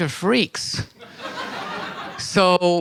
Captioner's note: audience laughter